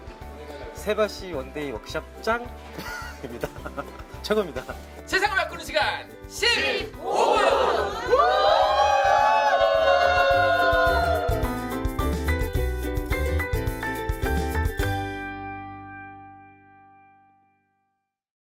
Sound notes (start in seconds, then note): 6.5 crowd Cheering; 12.1 upbeat outro music